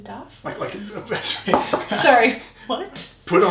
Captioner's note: chuckles